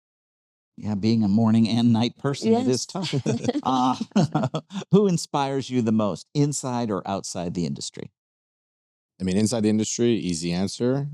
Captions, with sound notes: Yeah, being a morning and night person is tough. (laughing) Who inspires you the most, inside or outside the industry? I mean, inside the industry, easy answer,